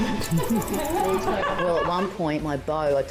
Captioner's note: everyone laughing